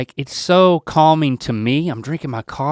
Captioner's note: none